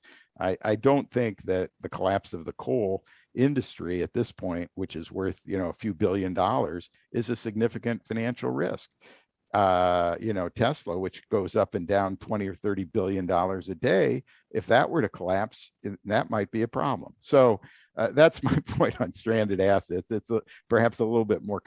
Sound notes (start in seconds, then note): 18.4 laughter